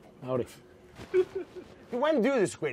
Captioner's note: laughs